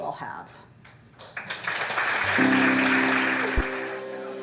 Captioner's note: applause